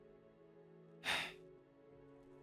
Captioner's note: impatient Sigh